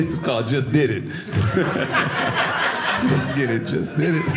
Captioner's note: audience laughing